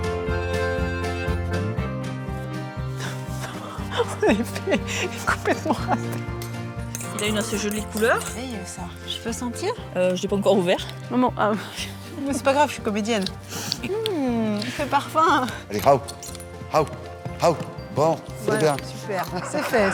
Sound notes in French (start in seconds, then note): 0.5 rires; 14.2 grognement